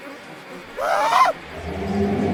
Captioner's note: Sam screams; deep roar